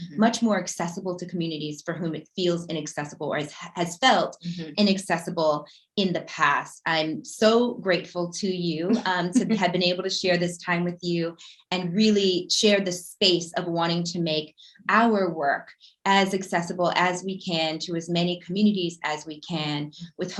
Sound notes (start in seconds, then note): 8.9 giggling